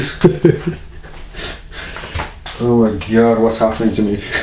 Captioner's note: laughing